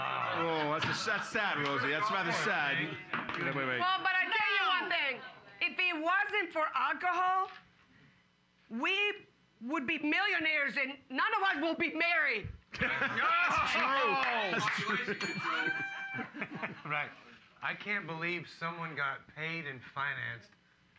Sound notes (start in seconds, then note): 12.8 loudly laughing; 14.7 bell softly chimes